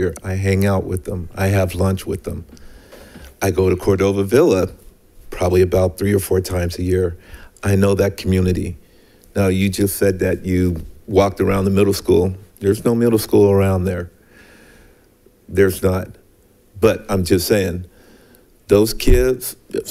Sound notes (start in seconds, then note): none